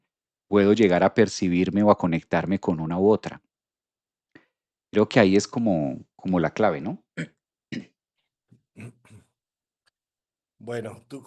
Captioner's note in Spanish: carraspeo